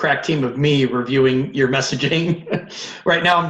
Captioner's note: laughs